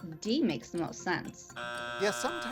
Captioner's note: buzzer sounds